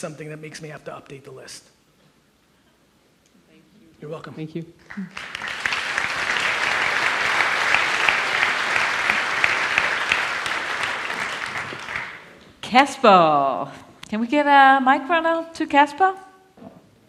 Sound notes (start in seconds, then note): 4.8 audience applauds